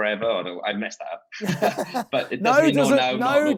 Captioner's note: laughing